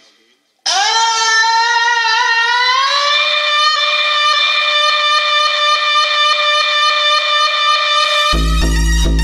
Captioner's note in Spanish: Gritos subiendo de tono y multiplicándose al ritmo de las células